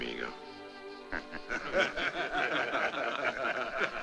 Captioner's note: men laughing